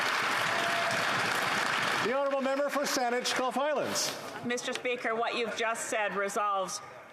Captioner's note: applause